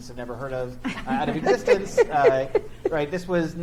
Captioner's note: chuckle